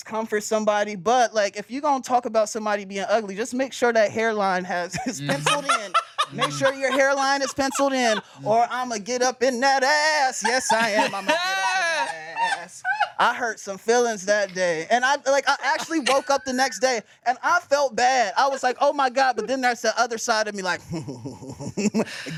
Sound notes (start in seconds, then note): 4.9 laughs; 20.6 chuckles